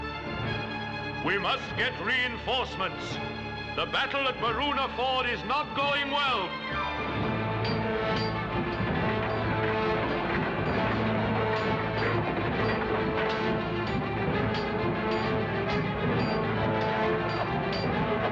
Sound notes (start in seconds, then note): 6.9 weapons clanging